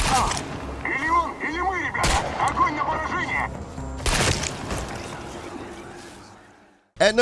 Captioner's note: gunshots firing; speaking Russian